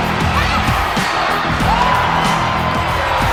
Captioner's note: cheering; fans cheering